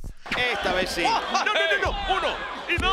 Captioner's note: laugh